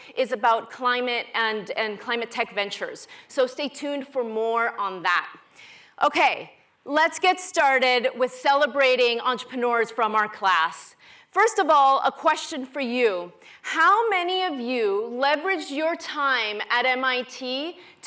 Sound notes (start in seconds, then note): none